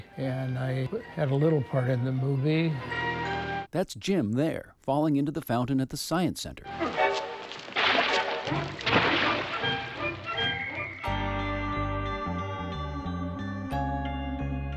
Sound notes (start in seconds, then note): 6.7 splashing water; 11.6 dramatic music